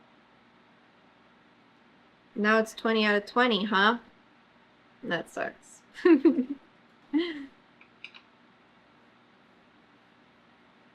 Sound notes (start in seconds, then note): 7.1 laughs